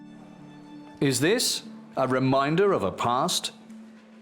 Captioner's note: in German